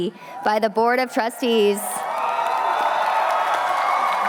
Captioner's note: cheering